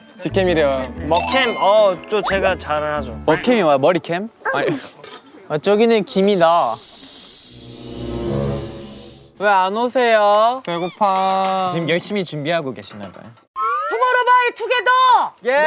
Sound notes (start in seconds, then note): 6.1 boiling